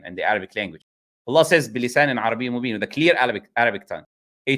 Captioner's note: in a clear Arabic tongue